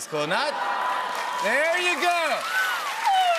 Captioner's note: cheers and applause